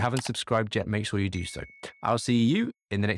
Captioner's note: bell chimes